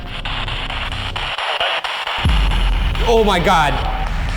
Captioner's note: distorted speech